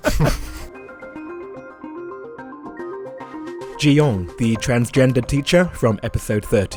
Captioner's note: voiceover